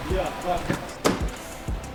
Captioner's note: door slams